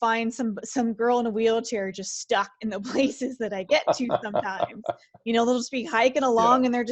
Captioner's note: laughs